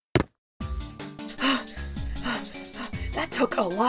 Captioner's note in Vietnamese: TV thở